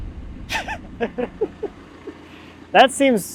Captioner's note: laughing